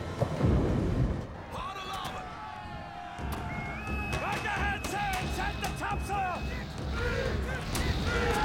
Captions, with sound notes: HARD A'LARBOARD! [ Whistle Blows ] RIGHT THE HEADSAILS! SET THE TOPSAILS!